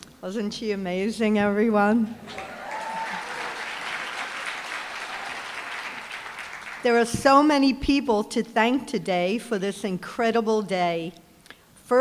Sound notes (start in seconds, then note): 2.2 applause, cheering